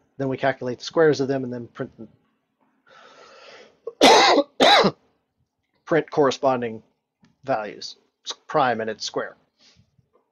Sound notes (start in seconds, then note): 3.8 coughs